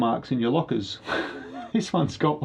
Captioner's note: laughs